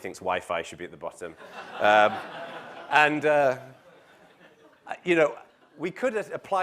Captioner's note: laugh